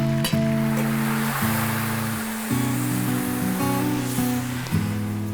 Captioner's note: steam hissing